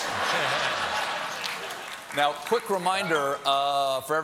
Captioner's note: laughter